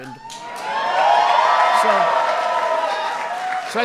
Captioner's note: applause